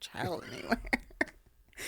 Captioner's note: laughter